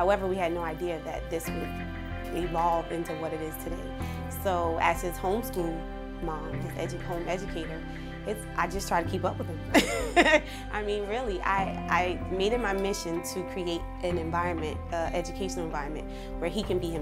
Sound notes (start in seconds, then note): 9.8 chuckle